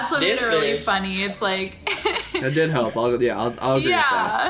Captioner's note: laughs